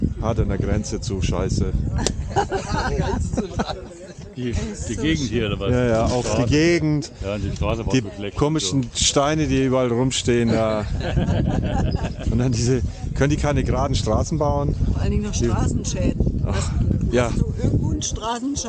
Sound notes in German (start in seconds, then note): 10.6 gelächter